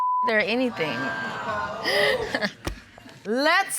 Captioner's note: audience exclaim